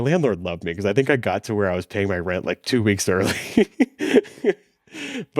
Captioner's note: laughs